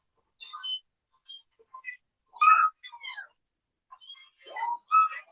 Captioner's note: none